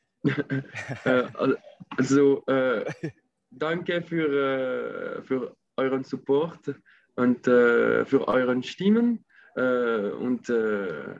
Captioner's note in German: Auf Deutsch